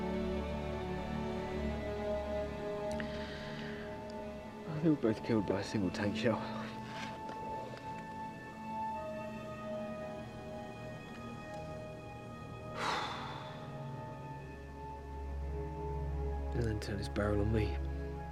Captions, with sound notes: They were both killed by a single tank shell. (Hatter exhales deeply) It then turned its barrel on me.